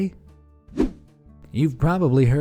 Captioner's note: air whooshing